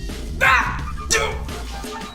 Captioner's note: groans